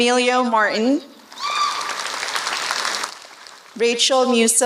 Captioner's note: applause